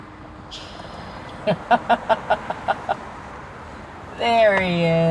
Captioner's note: Norma laughs